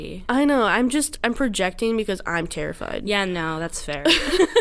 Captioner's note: laughs